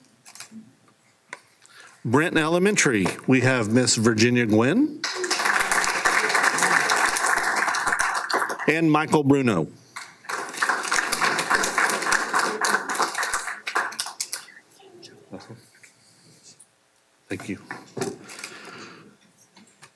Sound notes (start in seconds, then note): 5.0 applause